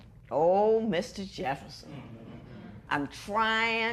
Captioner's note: spectators murmur